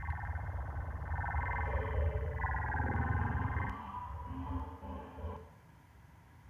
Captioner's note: electronic beeps and chirps